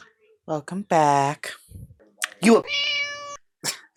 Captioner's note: meow